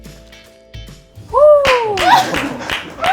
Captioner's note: suddenly clapping